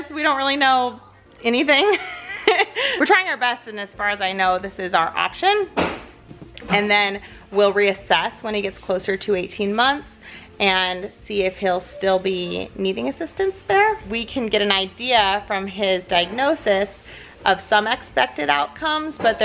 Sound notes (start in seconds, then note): 1.7 giggles